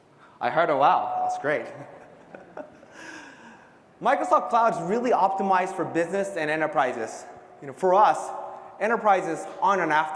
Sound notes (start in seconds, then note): 1.8 laugh